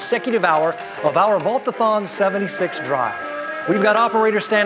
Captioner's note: phones ringing